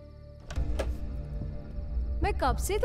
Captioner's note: Door opens